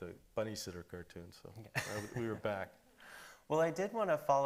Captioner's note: laughing